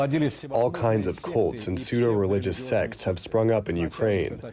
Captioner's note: through translator